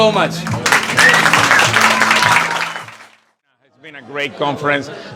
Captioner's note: crowd clapping